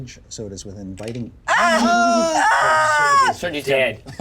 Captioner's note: yells